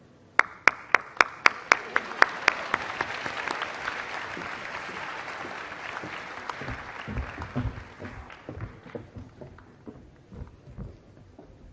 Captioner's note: applause